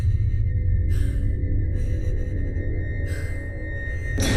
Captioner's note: woman gasping